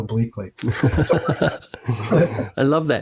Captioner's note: laughing